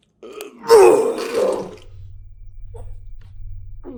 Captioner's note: Chuck retching